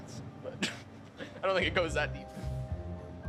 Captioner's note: laughs